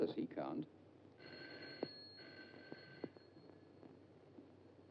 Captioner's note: phone rings